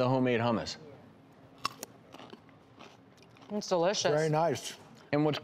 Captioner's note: veggie crunching